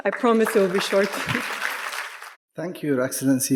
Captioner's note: audience applauding